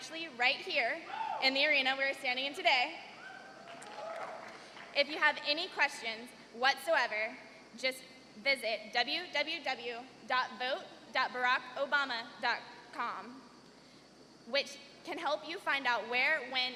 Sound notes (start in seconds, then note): 4.9 cheers and applause